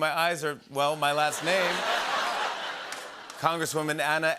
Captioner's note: laughter